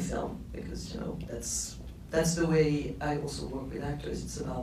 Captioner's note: none